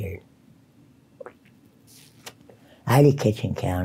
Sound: sucks cigarette loudly

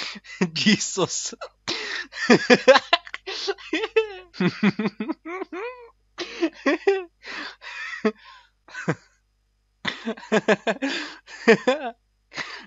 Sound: more laughter

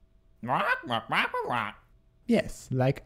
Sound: squawking

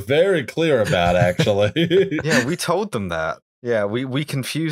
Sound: laughter

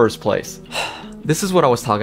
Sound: sighs

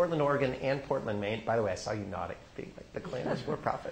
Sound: laughter

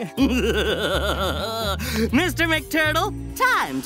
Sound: evil laughter

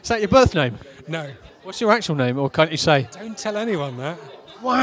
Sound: none

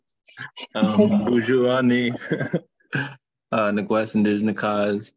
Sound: speaking foreign language

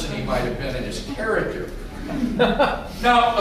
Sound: laughter

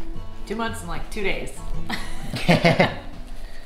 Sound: laughter

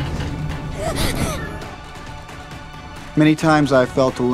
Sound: Sophie gasps

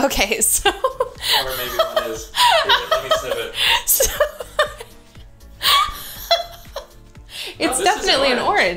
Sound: laughter

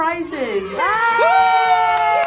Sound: crowd cheers; both cheering

